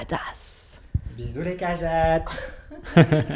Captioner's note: laughs